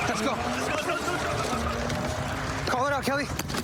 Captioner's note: shouting